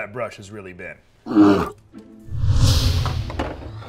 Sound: roaring; whooshing

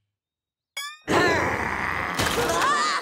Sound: growling

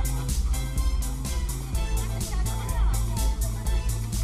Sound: indistinct chattering; upbeat music playing on radio

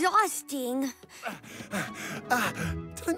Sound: panting

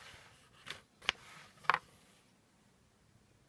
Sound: scratchy, slidy, book noises

